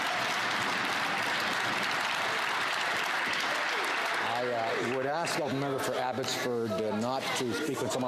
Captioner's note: some Applause